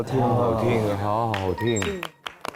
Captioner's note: can't help applauding